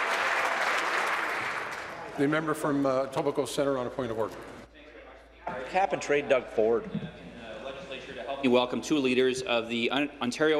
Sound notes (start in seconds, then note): 0.0 applause; 0.0 continued applause